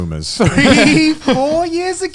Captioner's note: laughs